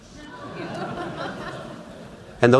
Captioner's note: laughter